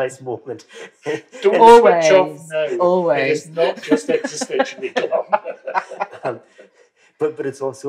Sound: laughter

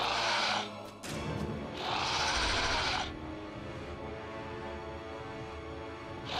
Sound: dinosaur roar; dinosaur roar

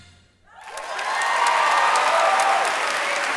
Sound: applause

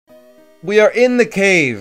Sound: none

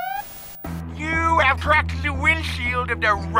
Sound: lisping

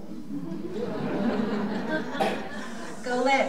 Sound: audience laughing

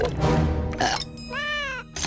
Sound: burping; meowing

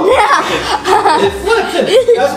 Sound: laughter

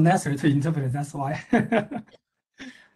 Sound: laughs

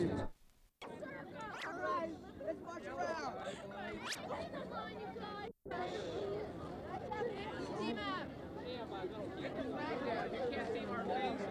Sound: ambient noise and chatter

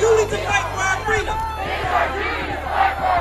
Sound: crowd

